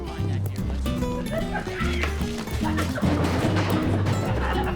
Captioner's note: laughs